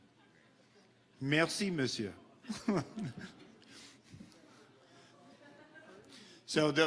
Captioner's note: speaking in foreign language